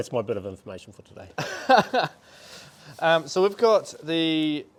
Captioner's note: speaker laughs